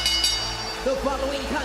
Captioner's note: bell rings